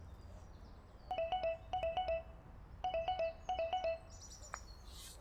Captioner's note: phone is ringing